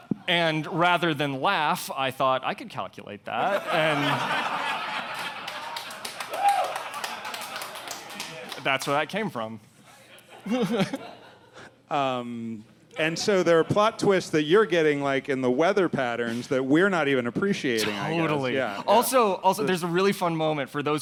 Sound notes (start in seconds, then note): 3.4 audience laughing; 4.9 audience clapping; 10.0 laughs